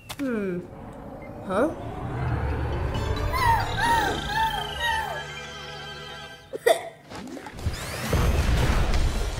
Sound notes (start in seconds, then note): 3.3 Flicky cries for help